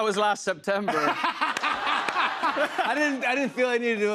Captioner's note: laughter